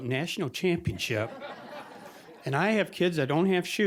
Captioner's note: audience laughing